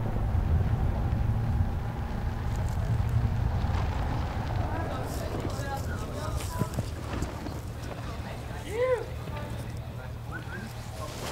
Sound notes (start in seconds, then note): 8.6 quiet cheer